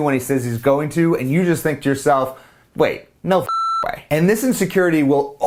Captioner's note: beep